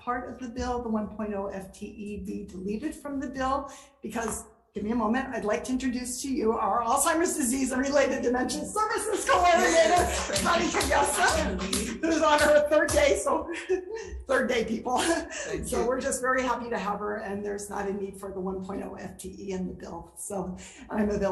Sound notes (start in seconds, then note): 9.2 light applause